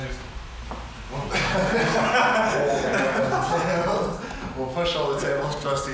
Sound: laughter

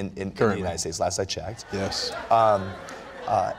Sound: laughter

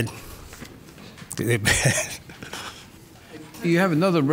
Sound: laughs

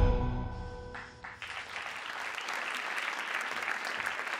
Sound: audience applauds

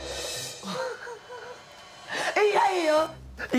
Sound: laughs

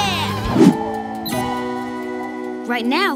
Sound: wind blowing

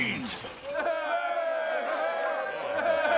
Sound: cheering

